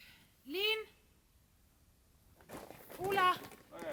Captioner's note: Yasmin shouting